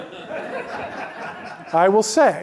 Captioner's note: laughter